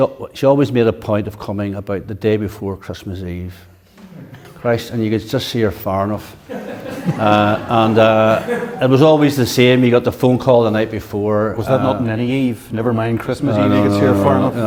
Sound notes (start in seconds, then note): 6.3 audience laughs